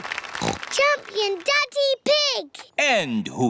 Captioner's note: snorts